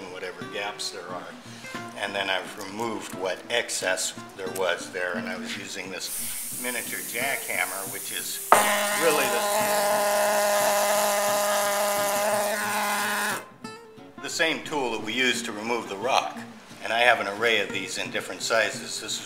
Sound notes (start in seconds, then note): 8.5 jack-hammer noise